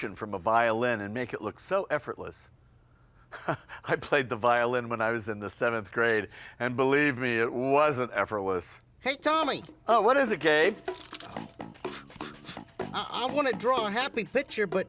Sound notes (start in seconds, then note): 3.3 chuckles